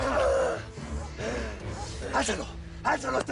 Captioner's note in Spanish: Quejidos